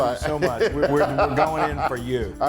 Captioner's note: laugh